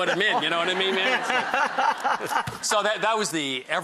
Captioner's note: laughter